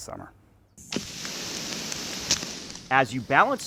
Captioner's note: sprinkler watering